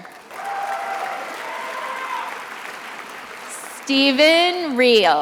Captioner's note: attendees applauding